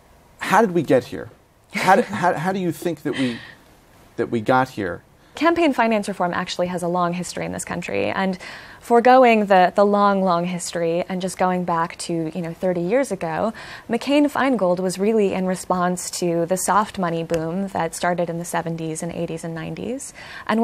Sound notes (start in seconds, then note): 2.8 laughs